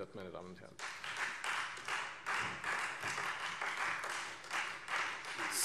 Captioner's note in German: Beifall Freie Demokraten